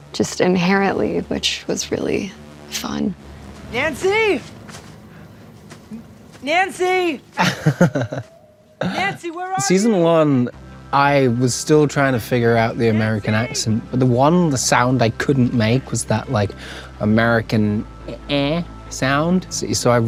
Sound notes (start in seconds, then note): 7.2 Charlie laughs